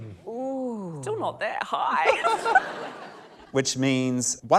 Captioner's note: laughter